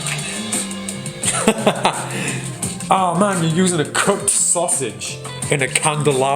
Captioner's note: laughs; upbeat music